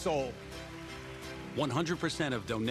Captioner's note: applauds